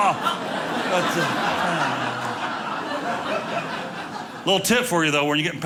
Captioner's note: audience laughing